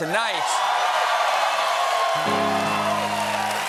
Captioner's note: cheers and applause